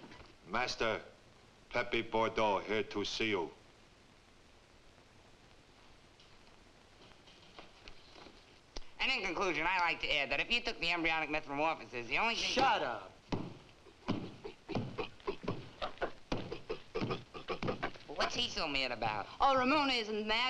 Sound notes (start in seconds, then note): 13.2 chimp thumping; 13.8 chimp grunting